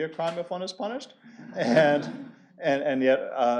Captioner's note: laughter